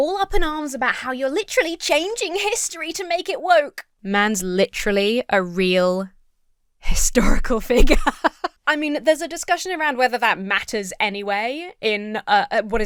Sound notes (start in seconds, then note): 7.7 laughs